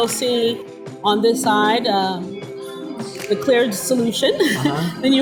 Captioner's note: laughs